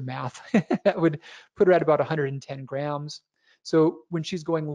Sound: laughs

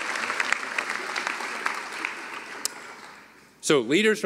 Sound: applause

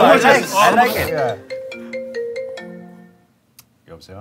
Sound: phone rings

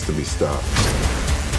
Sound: explosion

